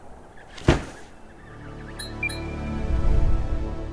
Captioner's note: baby penguins chirping; wind blowing; loud thud; musical drone; metallic "blink" sound effect; short uptempo melody; whoosh